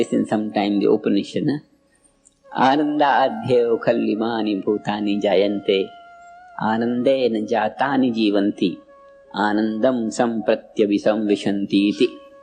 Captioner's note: in Sanskrit